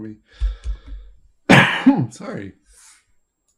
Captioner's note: coughing